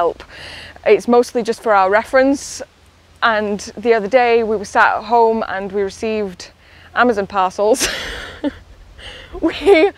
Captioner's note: laughs